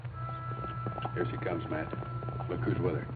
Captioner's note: horses galloping